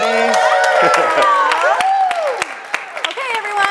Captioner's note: audience cheers and claps